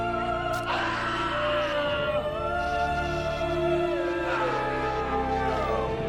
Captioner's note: somber music; man screaming